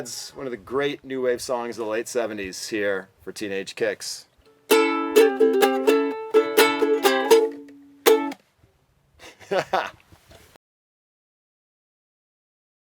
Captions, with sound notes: one of the great new-wave songs of the late '70s tier for Teenage Kicks. [playing ukulele] (laugh)